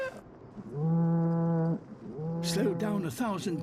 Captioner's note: deeper hum